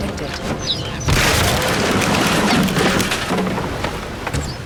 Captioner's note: wood crashing